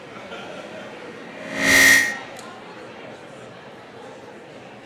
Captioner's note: microphone feedback